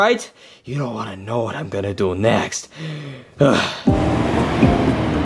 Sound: grunts; bright music

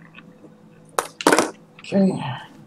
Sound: drops pen

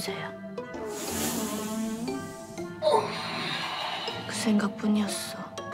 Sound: fart

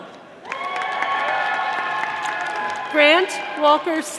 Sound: audience applauding

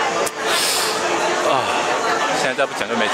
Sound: exhales; inhalation

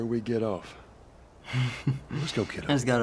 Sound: chuckling

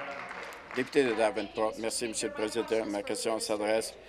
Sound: applause

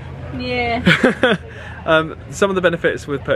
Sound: chuckling

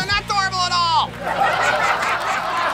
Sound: laughter

